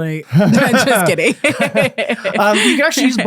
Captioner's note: both laughing